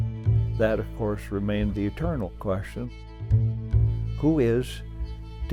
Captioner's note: voiceover